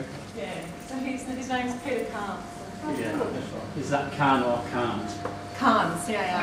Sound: wryly

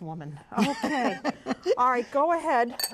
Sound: laughter

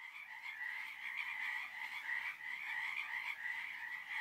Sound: frog singing

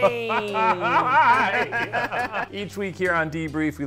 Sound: both laugh

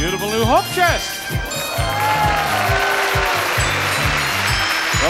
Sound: audience cheers

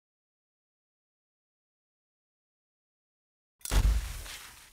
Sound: silence

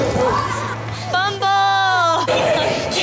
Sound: yelling

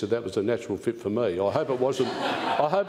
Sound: laughter

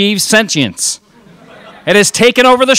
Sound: crowd laughs

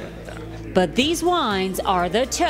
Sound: voiceover

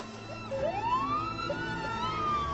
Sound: siren wailing

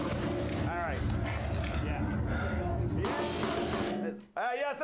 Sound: gun shots

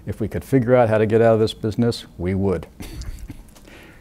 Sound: laughing

